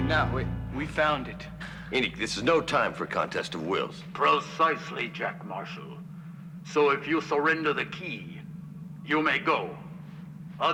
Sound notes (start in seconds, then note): none